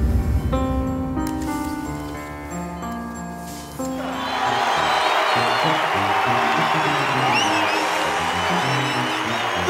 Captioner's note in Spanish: Aplausos